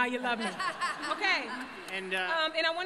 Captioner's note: laughter